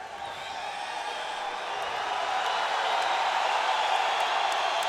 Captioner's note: audience cheering